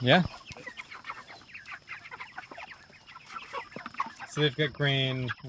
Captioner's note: chickens clucking